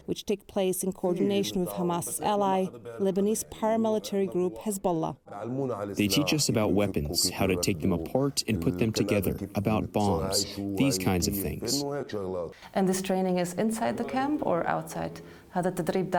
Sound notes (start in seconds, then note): 6.3 through translator